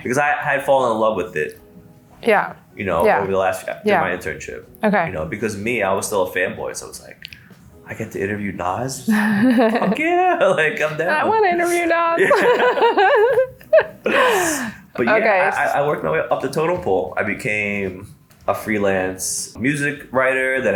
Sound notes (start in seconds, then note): 12.2 laughs together